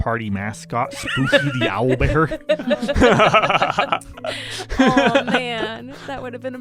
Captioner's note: laughter